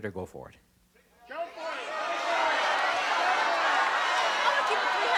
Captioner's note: audience yelling